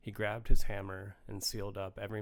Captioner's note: none